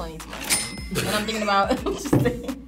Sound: laughs

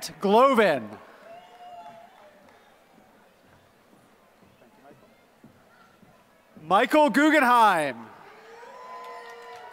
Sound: applause

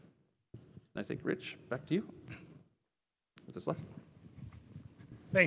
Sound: cough

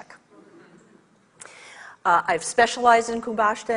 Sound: audience laughs

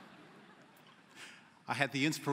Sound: laughter

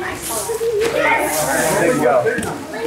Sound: family chuckles and chatters excitedly

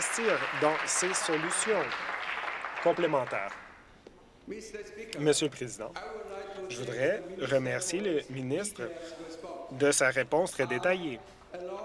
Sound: some Applause

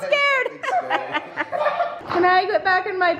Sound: laughing

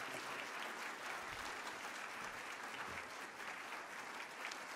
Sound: applause

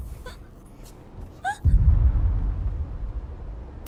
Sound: gasps; whimpering

